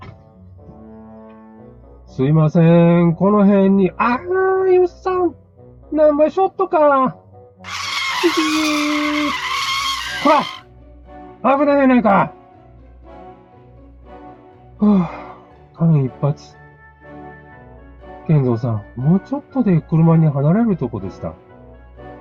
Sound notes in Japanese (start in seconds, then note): 7.6 車のブレーキ音